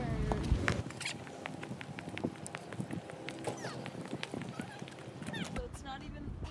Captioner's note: fast footsteps